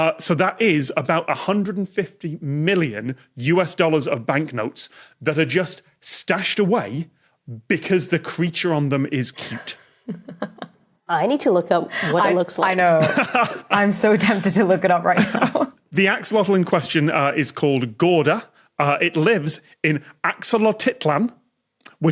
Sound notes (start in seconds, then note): 10.0 giggles softly; 12.7 laughs